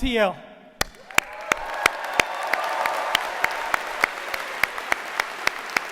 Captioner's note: audience applauding